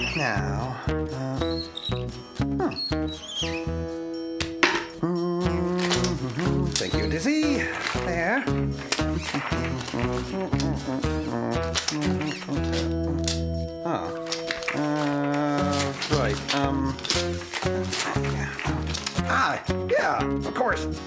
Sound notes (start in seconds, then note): 4.8 humming; 9.6 continues Humming